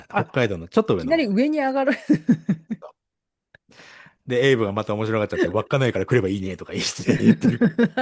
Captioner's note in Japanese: 笑い